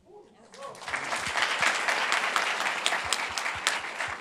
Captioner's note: group applauds